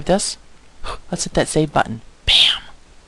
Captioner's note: gasping